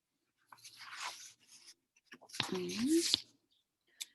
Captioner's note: papers rumbling